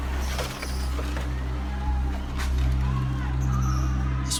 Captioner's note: metal scraping